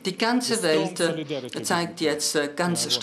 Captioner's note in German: spricht Ukrainisch